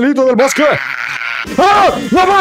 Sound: yells angrily in an epic way

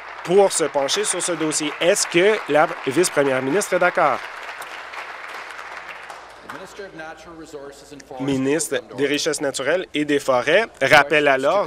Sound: applause

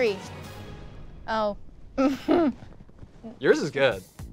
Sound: dramatic music continues; chuckles

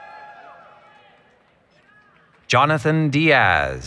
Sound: applause, Cheering

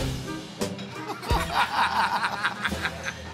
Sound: laughter

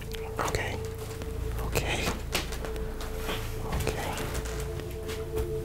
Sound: whispers

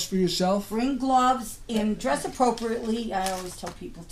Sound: voiceover

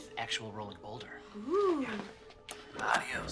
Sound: whispered

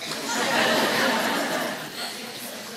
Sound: laughter

